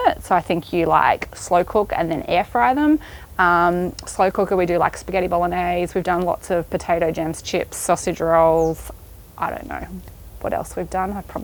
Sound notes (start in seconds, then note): none